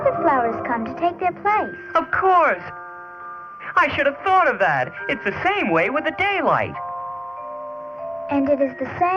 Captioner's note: bell